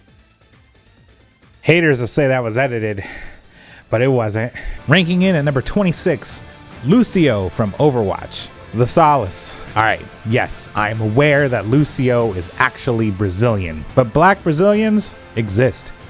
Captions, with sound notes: Haters will say that was edited. *fat breathing* But is wasn't. Aight, yes, I am aware that Lúcio is actually Brazilian. ...But black Brazilians... Exist.